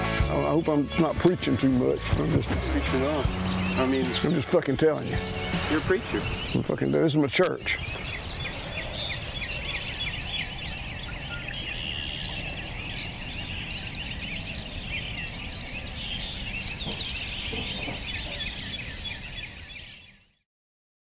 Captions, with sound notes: - Oh, I hope I'm not preaching too much. I'm just fucking telling ya. - You're preacher. - I'm fucking there's my church. (birdsong overlapping)